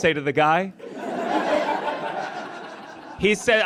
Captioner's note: audience laughs